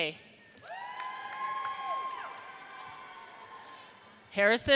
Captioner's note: audience cheers